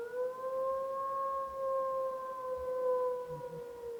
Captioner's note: howl